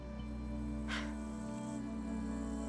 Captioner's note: laugh